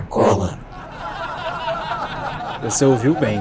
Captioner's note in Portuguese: risos